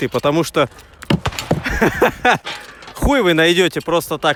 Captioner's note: laughing